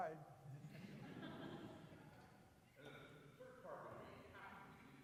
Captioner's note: audience laughing